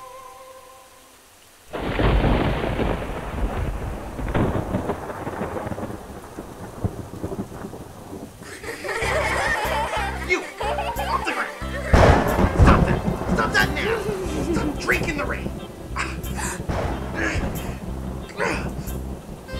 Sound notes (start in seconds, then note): 1.7 thunder crashing; 9.2 laughing; 11.8 thunder crashing; 16.6 angry muttering